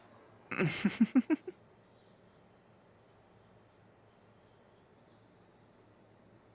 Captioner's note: flirty laugh